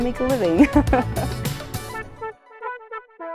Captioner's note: laughs